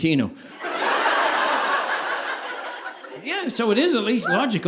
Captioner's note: audience laughing